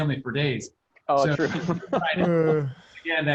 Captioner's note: laughing